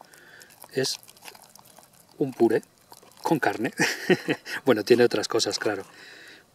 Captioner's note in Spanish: risa irónica